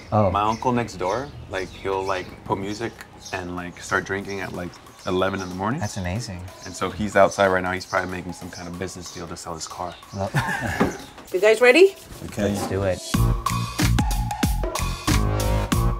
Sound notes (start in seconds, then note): 10.1 Justin laughing; 13.7 upbeat music